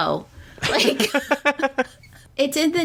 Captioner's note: laughs